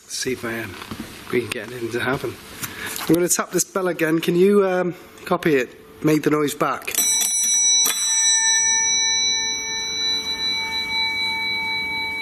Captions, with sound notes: See if I am been getting anything to happen. I'm gonna tap this bell again. Can you copy it, make the noise back? (bell ringing)